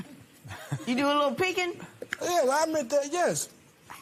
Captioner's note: laughs